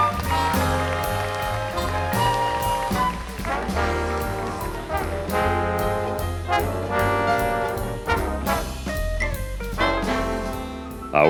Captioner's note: applause